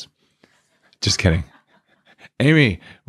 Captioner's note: laughing